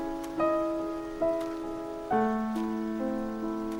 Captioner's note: steps